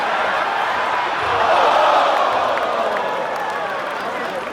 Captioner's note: crowd groans